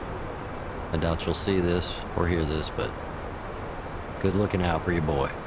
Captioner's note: radio chatter